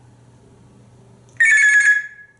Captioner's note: telephone sound